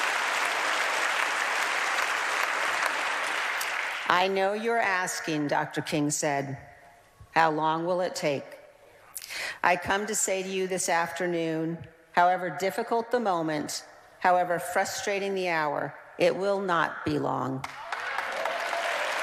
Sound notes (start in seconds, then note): 4.9 applause